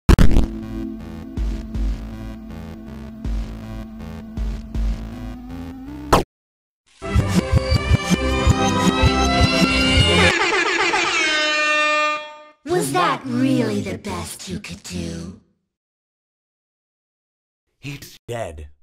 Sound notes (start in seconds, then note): 10.1 Helpy making airhorn noises